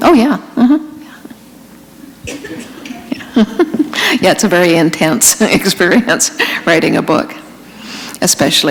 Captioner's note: chuckle